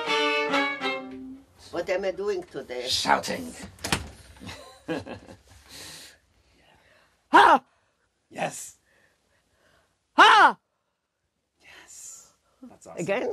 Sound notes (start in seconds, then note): 7.4 shout; 9.7 shout